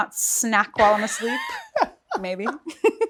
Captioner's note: laughs